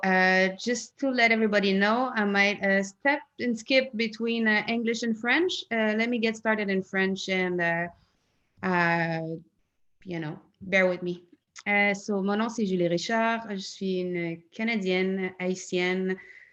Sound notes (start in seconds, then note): 10.3 in French